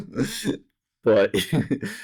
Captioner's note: laughter